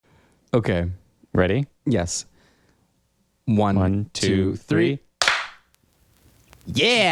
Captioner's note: clap